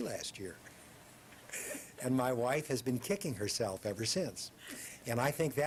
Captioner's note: laughs